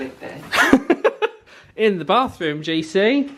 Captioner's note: laughs